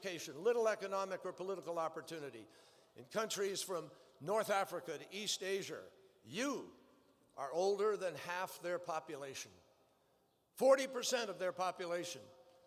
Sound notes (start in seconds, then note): none